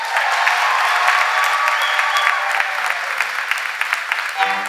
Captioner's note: cheers and applause